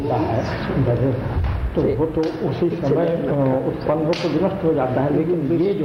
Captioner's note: discussion in Hindi